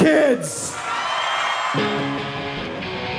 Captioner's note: audience applause; rock music